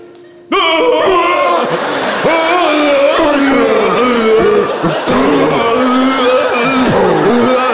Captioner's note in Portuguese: grunhidos